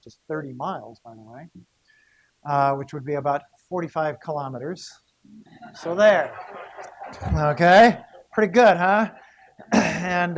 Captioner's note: laughter